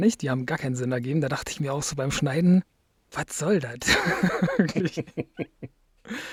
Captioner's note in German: gelächter